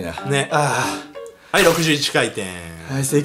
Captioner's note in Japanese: ピシュン音